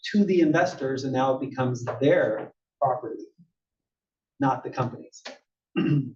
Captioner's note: cough